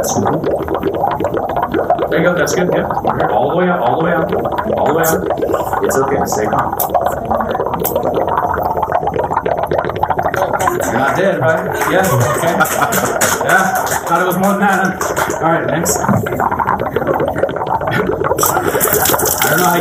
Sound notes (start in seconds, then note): 10.5 clapping and laughter; 17.0 water running